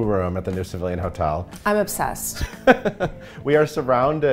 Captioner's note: chuckling